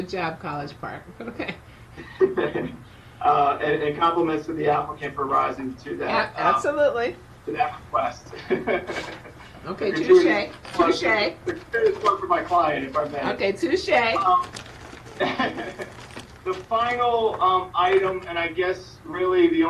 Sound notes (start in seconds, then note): 8.3 laughs